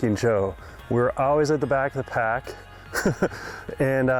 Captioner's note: chuckling